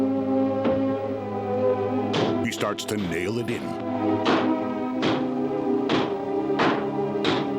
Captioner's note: hammering